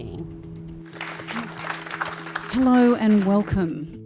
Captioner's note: clapping